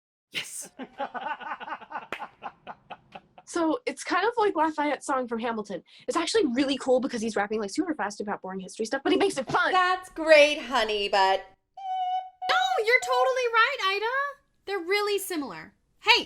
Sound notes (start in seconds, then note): 0.7 Gilbert & Sullivan laugh; 11.8 mimicks truck in reverse